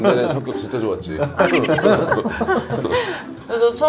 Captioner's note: A warmhearted laugh